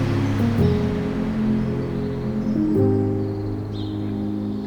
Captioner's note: birds chirping